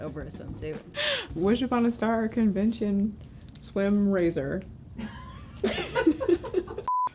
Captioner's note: laughs